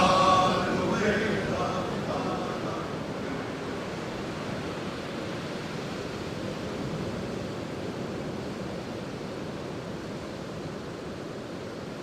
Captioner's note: sound of waves